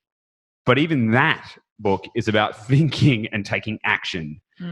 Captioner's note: chuckling